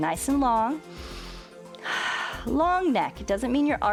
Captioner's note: inhales and exhales